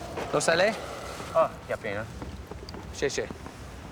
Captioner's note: speaking Mandarin